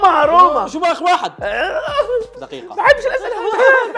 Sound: tantrum

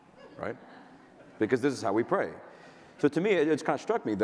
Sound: audience laughter

